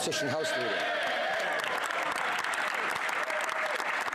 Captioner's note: speaking French